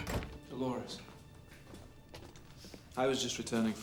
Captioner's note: door closes